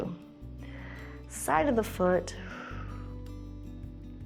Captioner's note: exhales